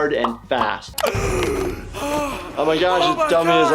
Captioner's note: dummy gasping